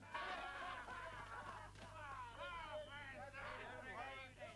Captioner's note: crowd reveling